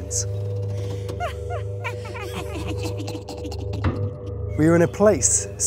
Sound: creepy laughter

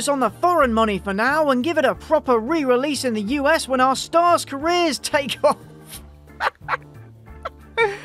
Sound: laugh

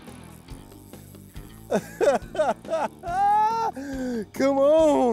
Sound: laughing

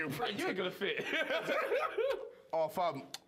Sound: laughter

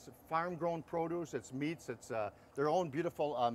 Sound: none

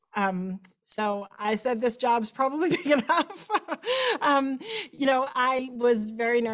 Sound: laughter

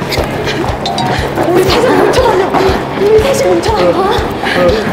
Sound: breathing hard

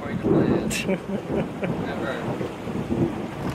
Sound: cameraman laughs; thunder booms

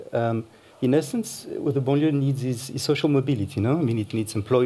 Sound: french

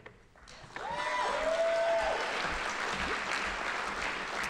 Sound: audience applauding

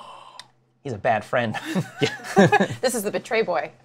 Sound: laughter

